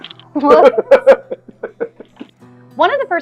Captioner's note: laughs